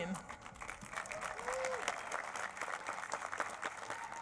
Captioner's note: applause